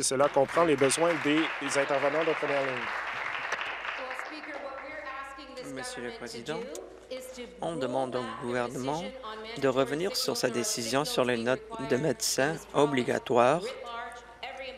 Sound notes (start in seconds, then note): 4.8 applause